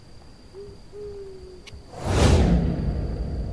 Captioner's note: animal howling; dramatic music